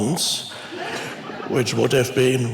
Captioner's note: congregation laughs